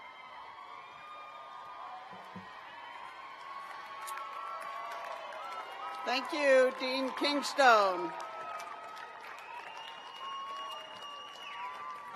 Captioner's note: cheers